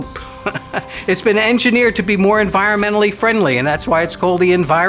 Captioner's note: laughs